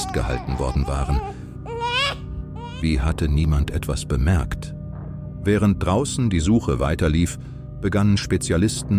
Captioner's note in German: weinen